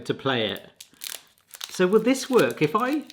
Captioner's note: wrapper crinkling